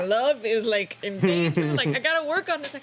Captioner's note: laughs